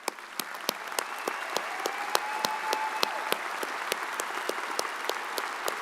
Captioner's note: audience cheers and applauds